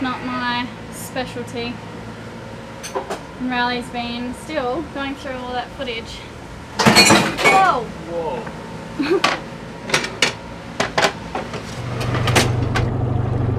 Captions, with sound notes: It's not my specialty. And Riley has been still going through all that footage. (dishes crashing) - Whoa! - Whoa!